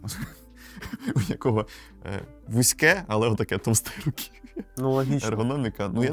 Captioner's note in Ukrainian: сміх